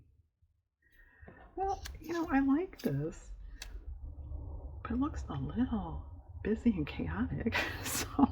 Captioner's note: laughs